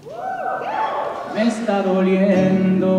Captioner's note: cheering